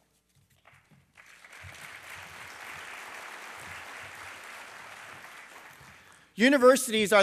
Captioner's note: applause